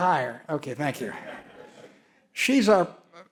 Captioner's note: audience laughs